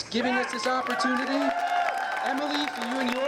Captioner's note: applause